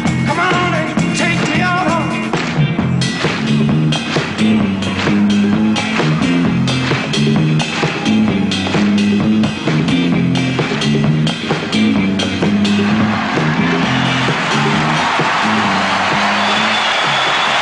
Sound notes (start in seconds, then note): 12.5 audience applauding